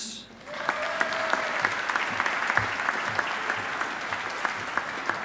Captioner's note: audience applauding